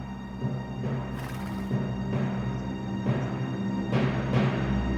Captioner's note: buffalo chuffs